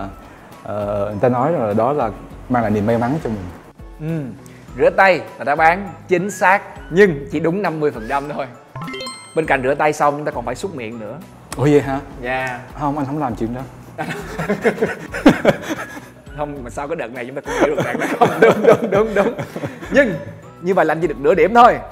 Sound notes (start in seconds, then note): 14.0 laugh